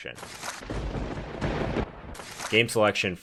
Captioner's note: thunder crackling